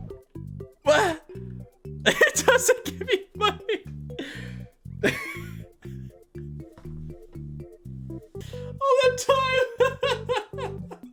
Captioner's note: laughs